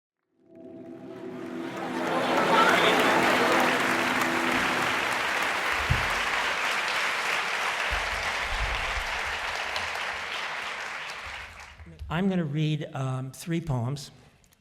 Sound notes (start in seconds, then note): 2.2 audience applause